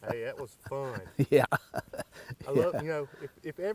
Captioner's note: laughs